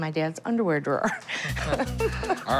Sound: laughs

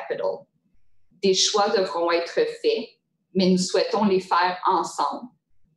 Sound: speaking in French

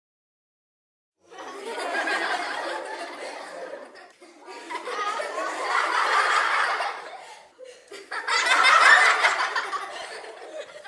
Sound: sound of laughter

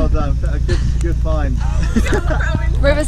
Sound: laughs

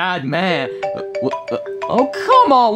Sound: phone ringing

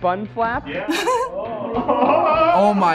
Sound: laughs

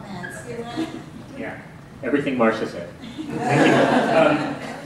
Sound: laughter

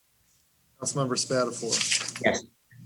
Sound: paper rustling

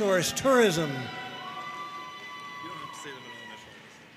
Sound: audience cheering and applauding

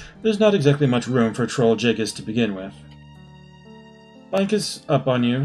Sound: none

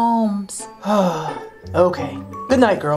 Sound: Professor sighing

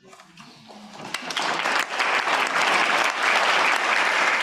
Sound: audience applauding

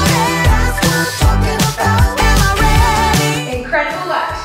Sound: alarm beeping

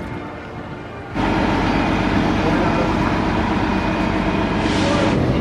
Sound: bright music; engine revving

